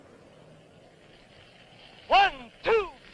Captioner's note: sizzling